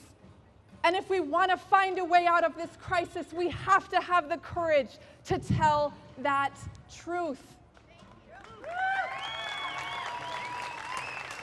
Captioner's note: applause